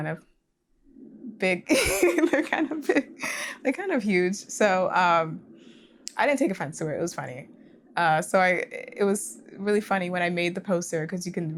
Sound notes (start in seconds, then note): 1.7 laughing